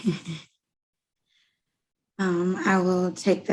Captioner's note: chuckles